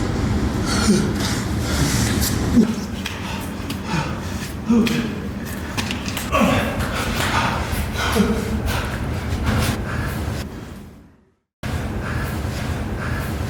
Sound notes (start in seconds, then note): 0.6 Chris groaning; 6.2 Chris groans; 7.0 Chris heaving